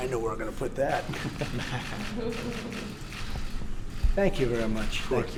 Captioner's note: laughter